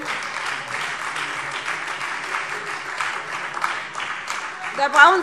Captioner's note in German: Beifall SPD und DIE LINKE - Zurufe BÜNDNIS 90/DIE GRÜNEN: Oh!